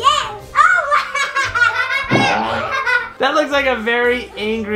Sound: laughter

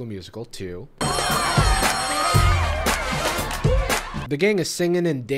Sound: bell rings

